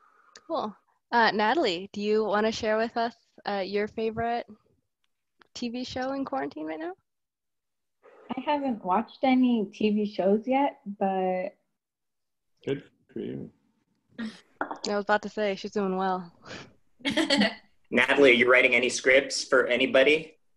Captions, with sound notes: Cool. Well Nathalie, do you want to share with us your favorite TV show in quarantine right now? I haven't watched any TV shows yet. Good for you. Yeah, I was about to say, she's doing well. [laughing] Nathalie, you writing any scripts for anybody?